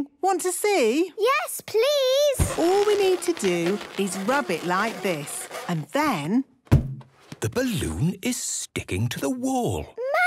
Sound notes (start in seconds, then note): 2.4 balloon rubbing; 6.3 balloon echoes